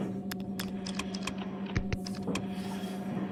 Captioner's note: pressing buttons